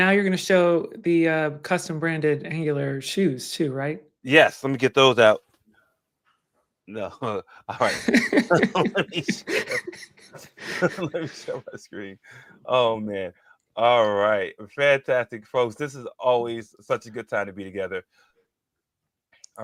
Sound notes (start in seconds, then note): 7.7 laughs; 7.7 chuckling; 10.7 laughs; 11.8 chuckling